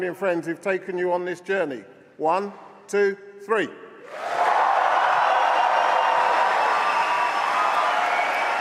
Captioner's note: cheering